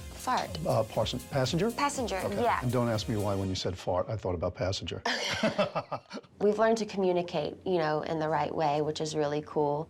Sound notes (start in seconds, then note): 5.0 both laugh